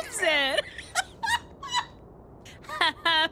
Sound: laughter

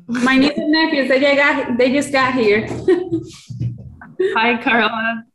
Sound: giggles

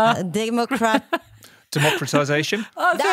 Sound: laughs

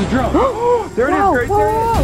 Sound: both gasp

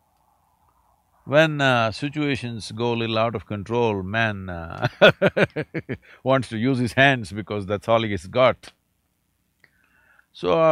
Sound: laughs

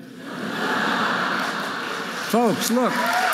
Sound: audience laughing

